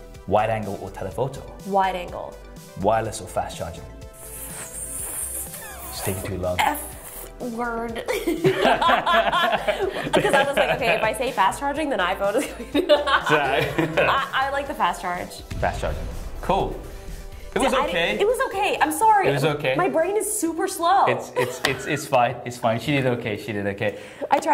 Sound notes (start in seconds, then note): 4.4 holds 'F' sound; 8.0 laughter; 12.3 laughter; 21.0 laughs